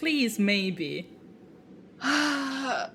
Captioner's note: sighs